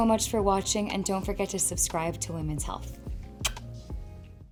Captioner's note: kisses